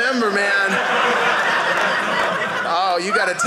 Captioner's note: audience laughing